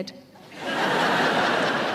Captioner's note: audience laughing